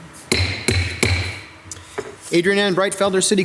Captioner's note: gavel bangs